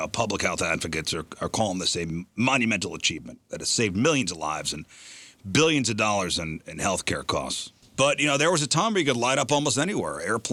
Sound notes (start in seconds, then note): none